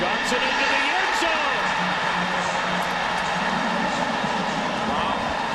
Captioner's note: crowd cheering